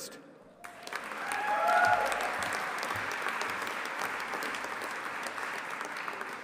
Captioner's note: audience applauding and cheering